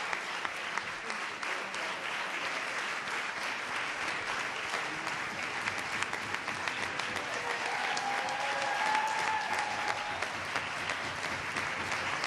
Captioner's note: cheers and applause